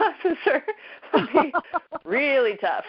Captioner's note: both laughing